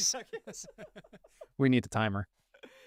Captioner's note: both laughing